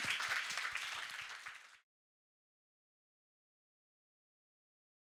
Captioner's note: audience applauding